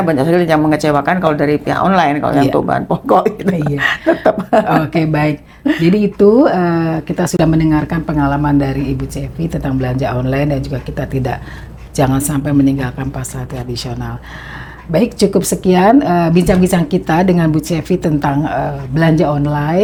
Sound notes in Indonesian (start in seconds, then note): 4.2 tertawa